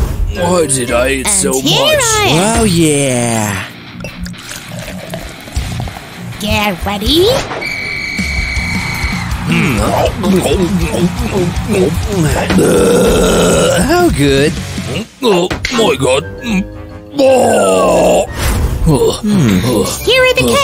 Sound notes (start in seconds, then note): 4.0 belches